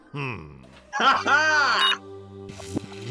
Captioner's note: beeping